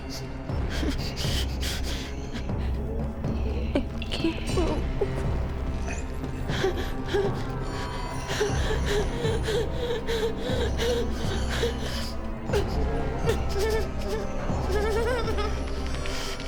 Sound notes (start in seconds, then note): 1.2 Claire whimpering; 6.8 Claire gasping; 13.1 Claire whimpering